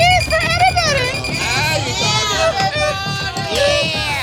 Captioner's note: counter beeping